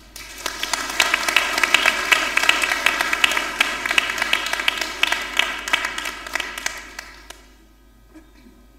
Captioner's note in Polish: oklaski